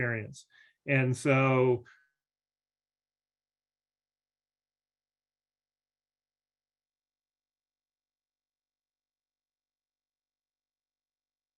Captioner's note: audio freezes 46:28 – 46:54